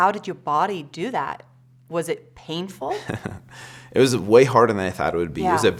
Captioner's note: laughs